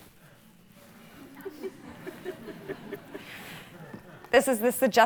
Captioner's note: audience chuckling